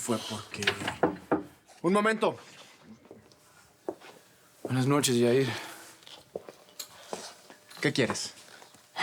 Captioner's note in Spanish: Toques en la puerta